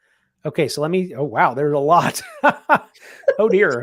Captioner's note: laughs